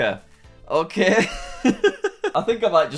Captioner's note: laughs